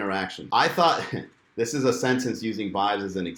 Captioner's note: chuckles